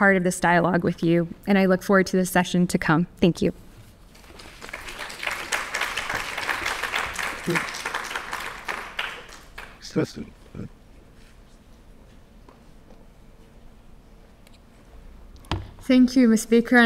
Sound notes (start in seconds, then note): 4.1 audience clapping